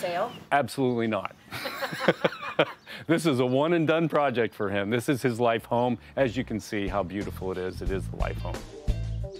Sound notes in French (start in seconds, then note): 1.5 both laughing